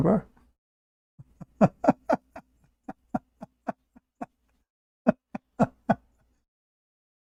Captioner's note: Ketawa